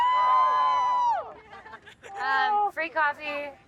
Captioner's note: crowd cheering